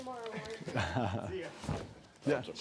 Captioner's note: chuckles